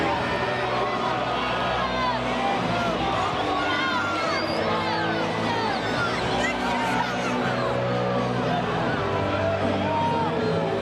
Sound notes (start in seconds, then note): 2.4 crowd chattering; 2.4 upbeat rock music